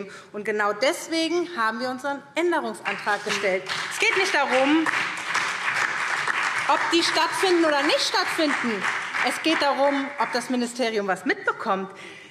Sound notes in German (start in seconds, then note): 2.6 Beifall SPD und DIE LINKE